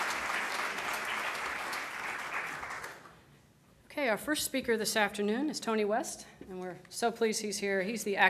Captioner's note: applause